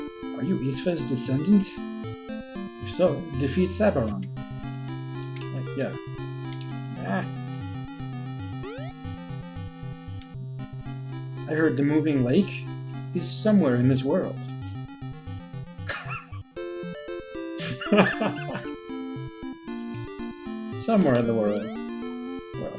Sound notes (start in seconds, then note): 15.6 laughs